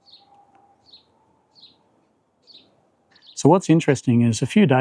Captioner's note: birds chirping